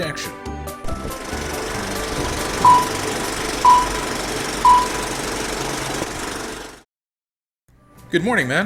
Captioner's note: film projector sound